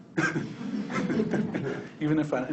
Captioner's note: people laughing